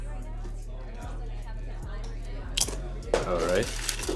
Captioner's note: people chattering